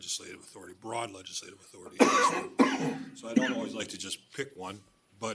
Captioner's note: clears throat; cough